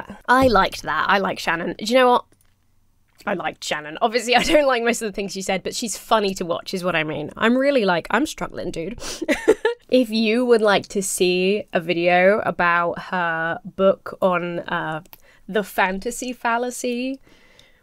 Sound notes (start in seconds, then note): 9.0 sniffles; 9.0 laughs